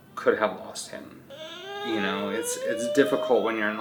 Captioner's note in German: DJ weint